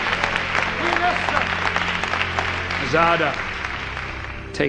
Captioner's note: audience applauds